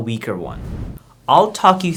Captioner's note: air whooshing